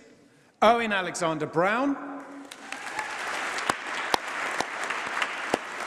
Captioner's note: applause